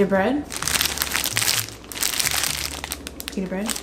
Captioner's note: bag crinkles